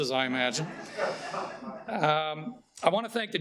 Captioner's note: audience chuckling